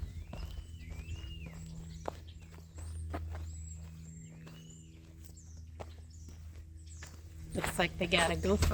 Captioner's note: walking; birds chirping